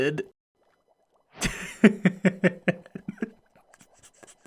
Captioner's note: laughs